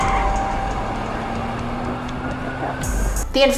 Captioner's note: car engine accelerating